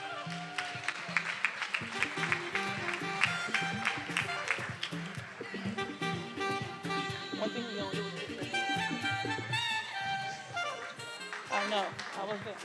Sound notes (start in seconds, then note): 0.0 attendees cheering and applauding; 7.5 faculty member speaking faintly; 9.9 upbeat music